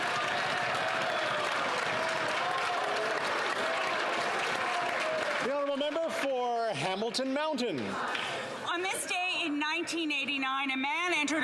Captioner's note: some Applause